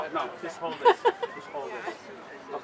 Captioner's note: laughing